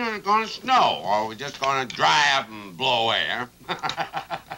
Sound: laughs

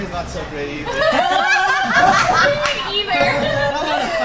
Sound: laughing

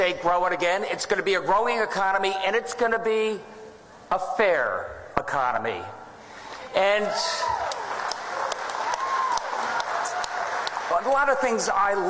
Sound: applause

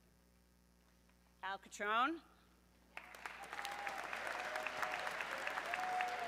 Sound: audience clapping

